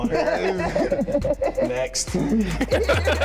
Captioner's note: laughing